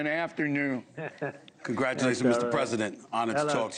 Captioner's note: laughter